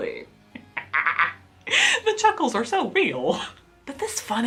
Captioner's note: laughs